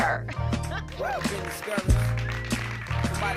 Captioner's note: audience applauding